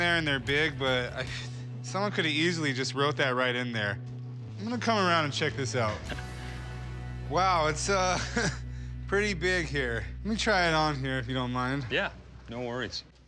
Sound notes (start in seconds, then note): 8.0 laughs